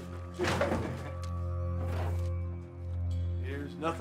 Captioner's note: drawers open